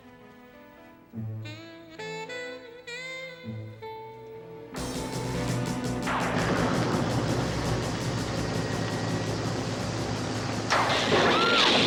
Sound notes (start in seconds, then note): 4.8 upbeat music; 6.0 thunder crashing; 11.0 girls screaming; 11.1 electricity buzzing